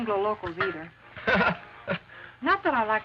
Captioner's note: Ramon chuckles